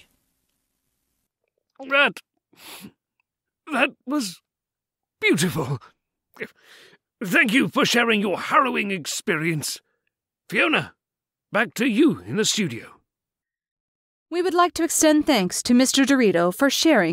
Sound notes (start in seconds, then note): 2.5 choking up